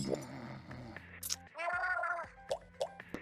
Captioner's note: …a tired groan all she can muster